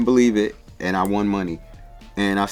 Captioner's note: fingers snapping